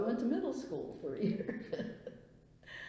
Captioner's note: laughs